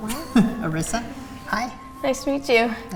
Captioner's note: laughs